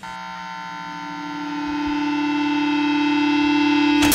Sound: feedback buzzing

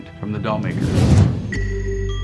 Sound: air whooshes; suspenseful music

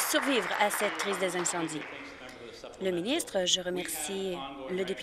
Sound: applause

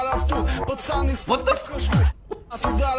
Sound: chuckles

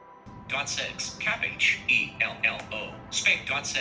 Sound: phone Voice

